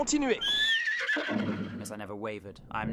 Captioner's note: horses neigh